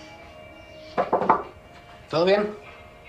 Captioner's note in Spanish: Llaman a la puerta